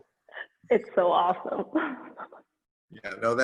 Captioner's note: chuckles